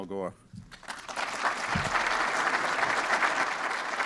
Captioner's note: applause